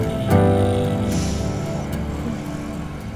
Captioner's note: Shreya exhales